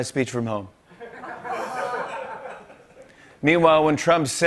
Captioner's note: laughter